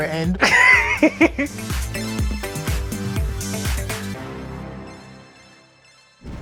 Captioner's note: upbeat music; laughing